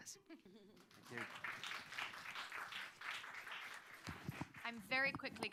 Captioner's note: applause